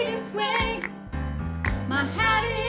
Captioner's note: clapping